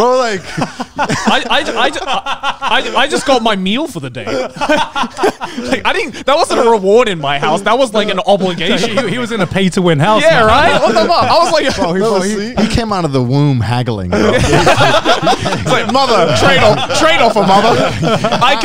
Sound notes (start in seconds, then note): 0.0 all laughing; 9.8 group chattering; 14.0 all laughing